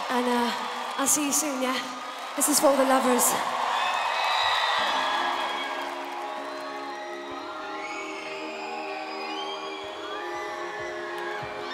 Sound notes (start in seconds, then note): 4.1 audience members screaming; 6.5 light music